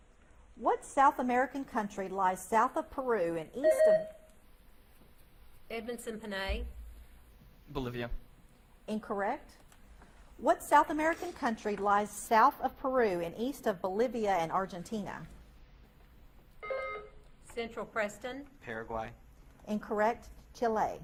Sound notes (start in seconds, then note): 3.6 buzzer beeps; 16.6 buzzer beeps